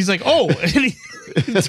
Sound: laughter

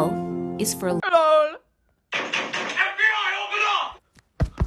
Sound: banging

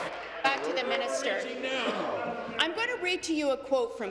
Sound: applause

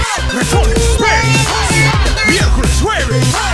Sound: baby Talk

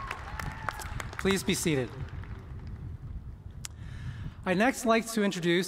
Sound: cheers and applause

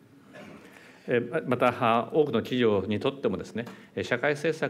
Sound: speaking japanese

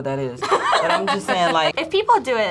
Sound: laughs

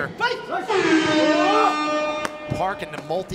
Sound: shouts

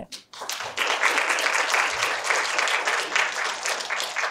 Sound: audience applause

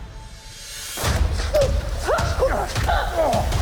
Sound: Enola grunting; man groans

